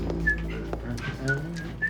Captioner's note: Joe whistling